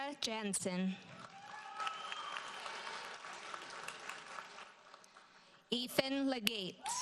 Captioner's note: audience cheers and applauds